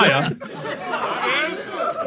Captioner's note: people in room laughing